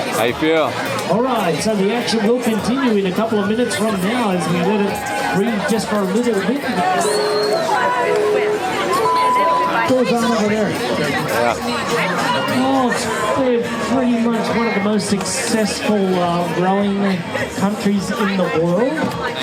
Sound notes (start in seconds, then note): 6.5 people chattering; 15.1 people chattering